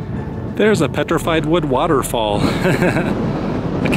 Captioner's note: laughter